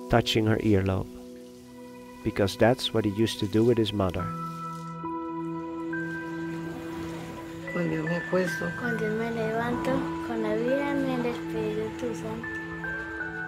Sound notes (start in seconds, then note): 8.0 speaking in foreign language